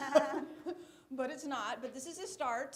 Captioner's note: laughter